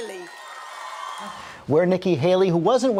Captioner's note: crowd applause